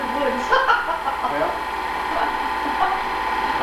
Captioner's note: laugh